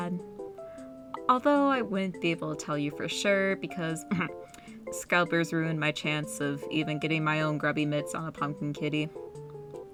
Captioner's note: cough